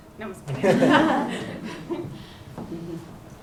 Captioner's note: laughter